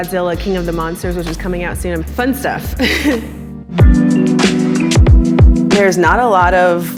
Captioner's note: laughs